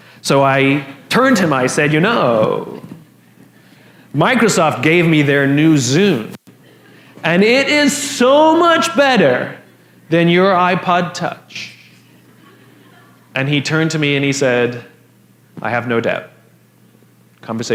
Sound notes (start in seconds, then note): 11.9 La audiencia se ríe